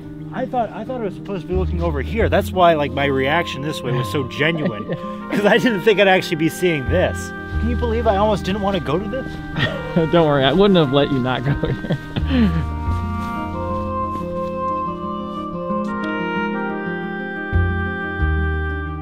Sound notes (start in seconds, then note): 11.4 laughs